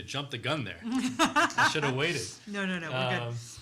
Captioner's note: laughs